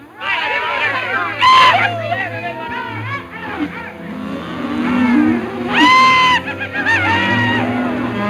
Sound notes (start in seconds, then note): 0.1 cowboys shouting; 0.1 cattle mooing